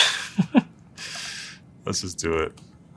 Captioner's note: laugh